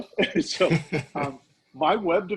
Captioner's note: laughing